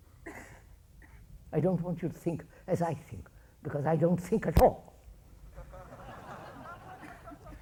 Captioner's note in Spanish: Risas